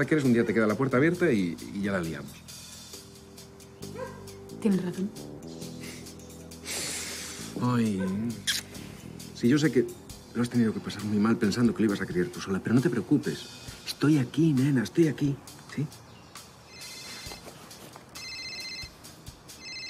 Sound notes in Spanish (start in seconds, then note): 6.6 suspirando